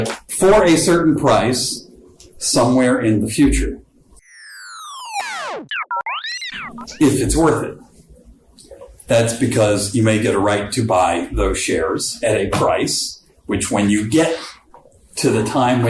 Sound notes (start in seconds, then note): 4.2 laser sounds